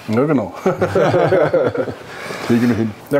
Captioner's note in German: lachen